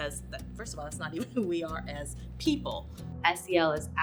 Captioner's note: laughing